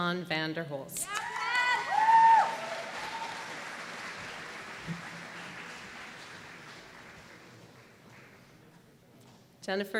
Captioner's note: applause